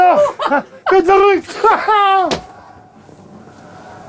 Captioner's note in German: Er lacht laut